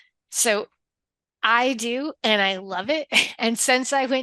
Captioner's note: chuckles